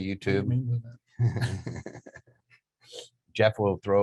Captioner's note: both laughing